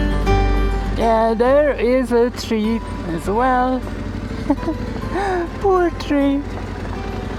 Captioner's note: giggle